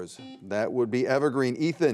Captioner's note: buzzer beeping